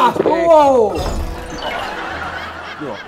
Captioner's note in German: Lachen